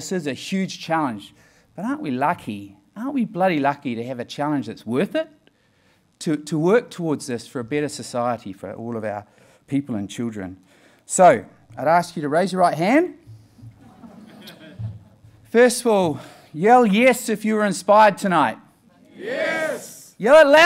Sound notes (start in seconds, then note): 13.8 laughing